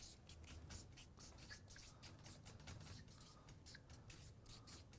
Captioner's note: marker scratching on paper